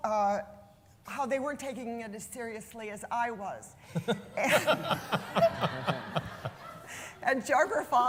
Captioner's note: laughter